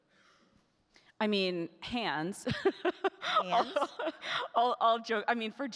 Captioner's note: laughing